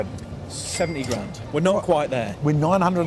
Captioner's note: register ringing